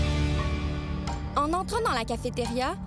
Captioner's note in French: musique entraînante; musique de film d'horreur; tic-tac